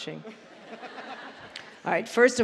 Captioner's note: laughter